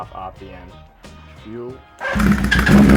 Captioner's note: engine revs; engine starts